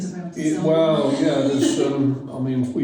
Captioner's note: laughs